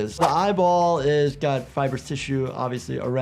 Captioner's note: none